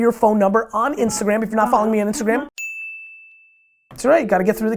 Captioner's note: bell dings